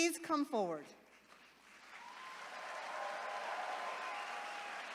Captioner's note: attendees cheering